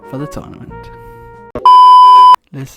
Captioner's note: beep